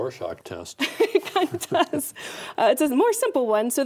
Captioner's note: laughing